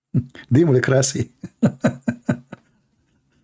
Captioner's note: Ketawa